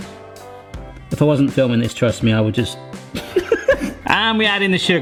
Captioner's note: laughs